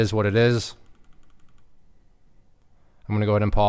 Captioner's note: keyboard clicking